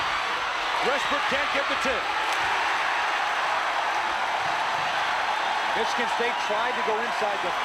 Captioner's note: cheering